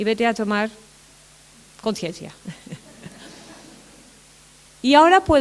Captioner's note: laughter